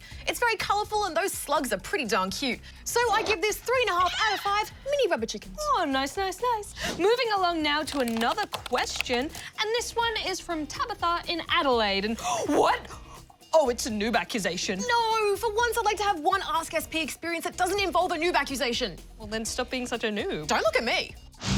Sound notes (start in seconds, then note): 12.8 gasps